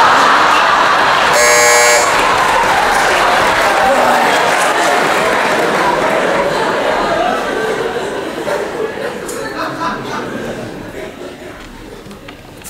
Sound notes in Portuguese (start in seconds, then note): 1.3 campainha